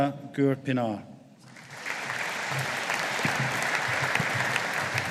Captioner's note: audience applauding